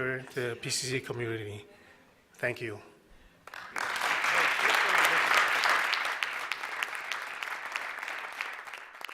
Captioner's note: applause